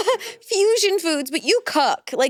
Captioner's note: chuckles